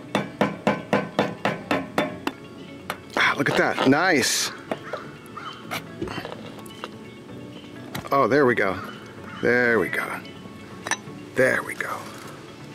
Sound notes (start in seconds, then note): 0.3 metal clanking; 10.8 metal clanking